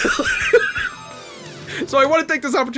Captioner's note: laughs